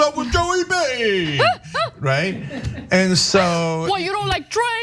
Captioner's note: laugh